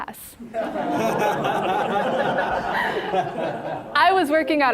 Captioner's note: all laughing